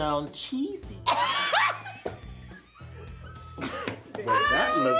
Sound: Tia laughs

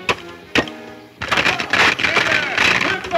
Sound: wood cracking

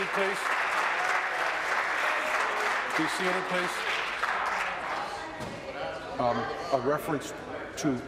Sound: applause

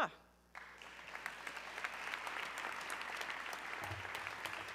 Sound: audience clapping

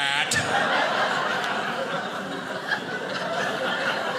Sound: audience laughing

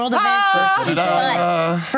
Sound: screams

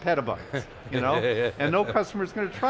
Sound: laughs

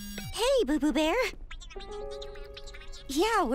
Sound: indistinct chattering

